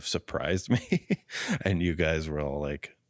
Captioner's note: laughs